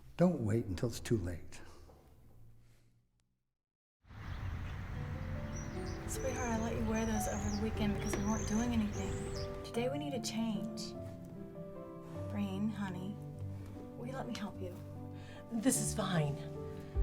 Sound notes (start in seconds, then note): 4.1 birds chirping; 4.8 gentle music